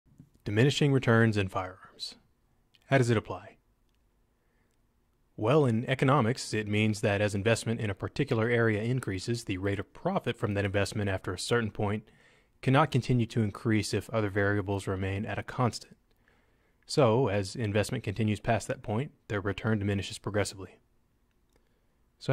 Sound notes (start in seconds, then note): 0.6 voiceover